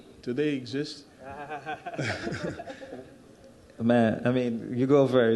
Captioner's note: chuckles